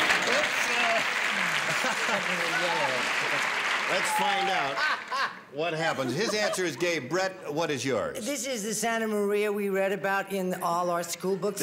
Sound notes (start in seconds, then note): 4.5 laughs